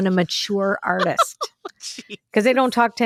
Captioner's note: laughs